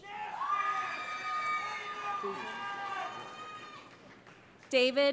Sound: cheering

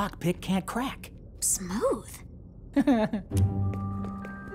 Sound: chuckling

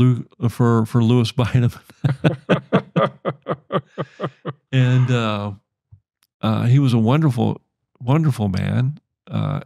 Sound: chuckles

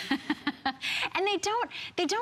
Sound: laughter

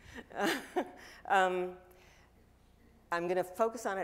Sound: chuckling

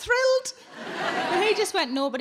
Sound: audience laughing

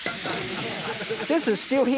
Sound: audience giggling

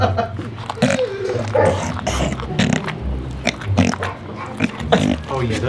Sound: distant dogs barking; snorting

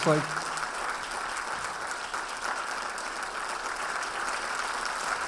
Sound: applauding

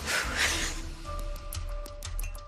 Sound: relieved sigh

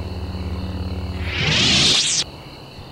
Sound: sabers retract

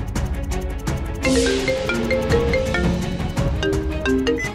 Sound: phone rings

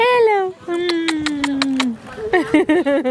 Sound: kissing; laughing

